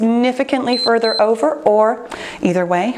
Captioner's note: timer beeps